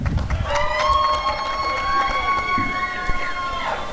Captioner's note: applause and cheering